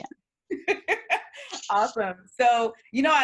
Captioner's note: laughs